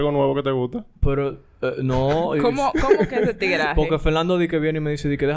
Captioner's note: laughs